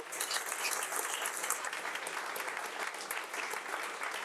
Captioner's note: audience applauding